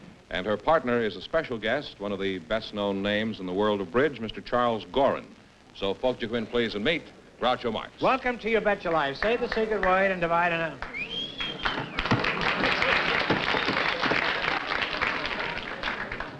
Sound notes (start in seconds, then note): 10.9 whistle; 12.5 applause